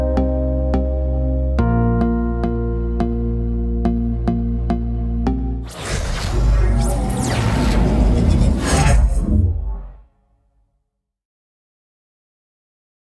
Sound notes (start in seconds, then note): 5.7 air whooshing; 5.7 electronic music